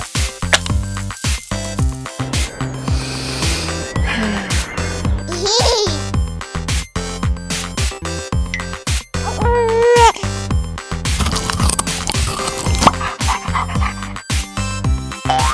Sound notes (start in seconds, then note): 0.1 playful music; 3.1 sniff; 5.3 child giggling; 9.2 baby crying; 11.1 crunching; 12.8 dog breathing